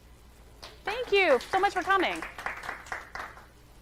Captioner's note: audience applauding